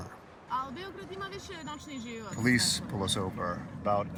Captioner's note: woman speaking Serbian